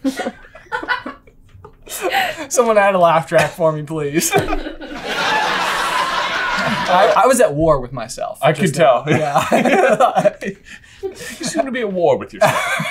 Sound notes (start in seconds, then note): 0.0 laughing uproariously in background; 0.0 team laughter; 4.2 canned laughter